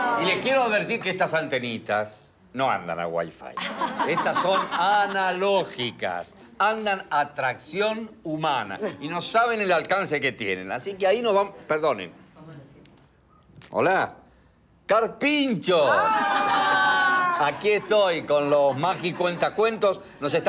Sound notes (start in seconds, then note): 3.6 laughs